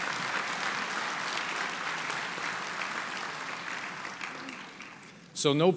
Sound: applause

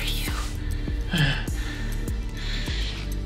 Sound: groaning

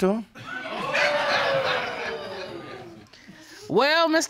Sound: audience gasping

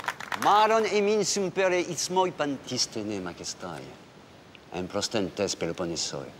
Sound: group clapping; Eurybiades speaking in foreign language

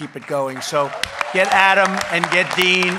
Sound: applause

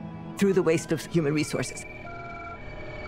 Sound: telephones ringing

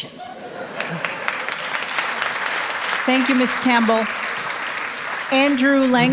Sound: laughter and applause

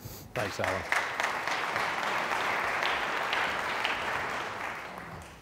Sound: audience applauding

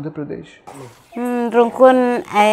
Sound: Speaking Jurai Sora

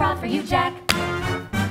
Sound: clap

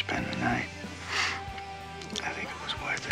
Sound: sniffs

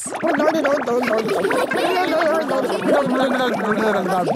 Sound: children laughing

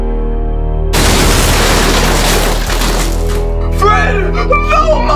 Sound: dramatic music; ceiling pieces clattering

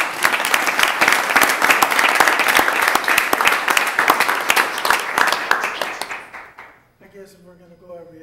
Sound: applause

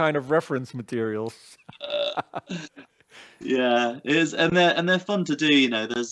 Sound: laughs

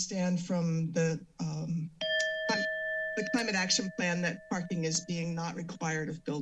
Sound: alarm sound

